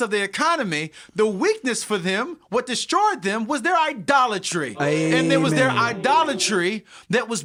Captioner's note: ooohh